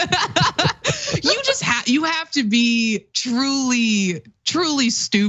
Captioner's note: laugh